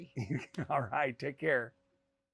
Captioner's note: chuckles